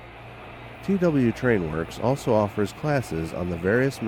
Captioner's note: voiceover